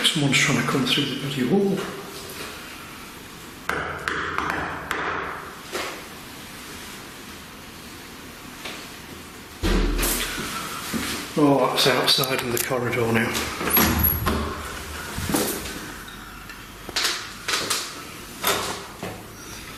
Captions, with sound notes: I think someone's trying to come through the bloody wall. (knocking) (loud banging) Oh that's outside in the corridor now.